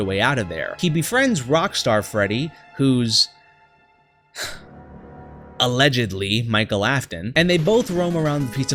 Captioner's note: sigh